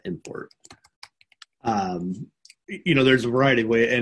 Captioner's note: computer keyboard clacking